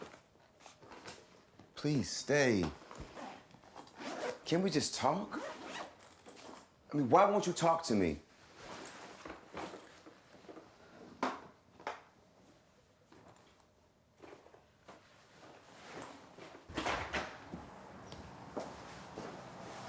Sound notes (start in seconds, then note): 3.8 zipper zips; 9.3 luggage rustles; 16.7 door clicks